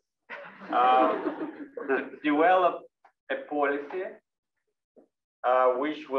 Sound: laugh

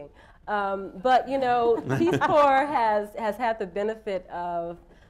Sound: laughter

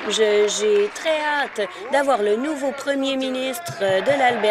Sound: applause

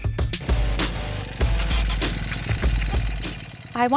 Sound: motorcycle

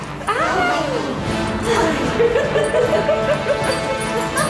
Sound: laughter

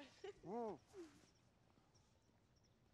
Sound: laughing

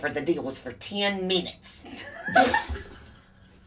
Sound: laughs

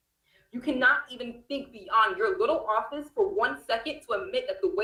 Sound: distortion

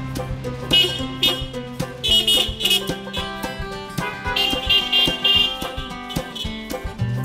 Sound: upbeat music; car horns honk

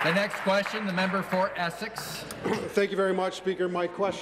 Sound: applause

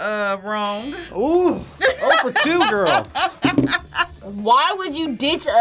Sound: laughs

